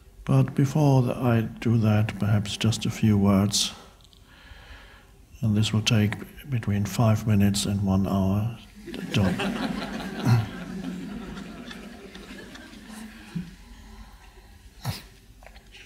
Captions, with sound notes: But before I do that perhaps just a few words, and this will take between five minutes and one hour, to get done. (audience laughing)